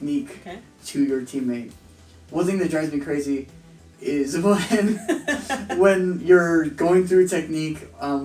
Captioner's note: laughter